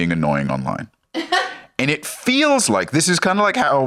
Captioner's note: laughs